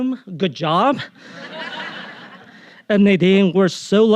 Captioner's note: audience laughing